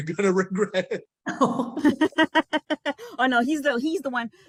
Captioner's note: laugh